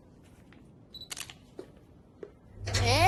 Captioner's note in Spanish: Clic de la cámara